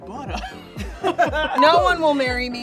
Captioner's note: laughs